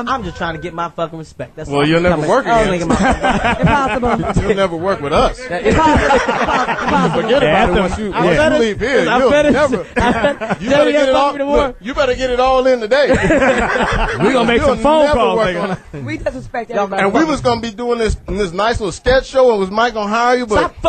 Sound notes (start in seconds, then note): 5.9 all laugh